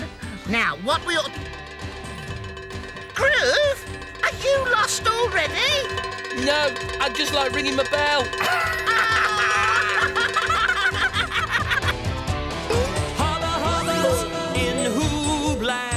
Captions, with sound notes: - Now, what we'll... (bell ringing loudly) - Groove! Are you lost already? (bell ringing loudly) - Nope! I just really like ringing the bell! (laughing) (theme music)